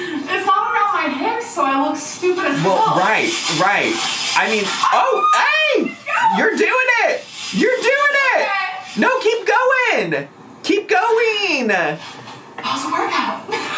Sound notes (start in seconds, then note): 5.0 yelling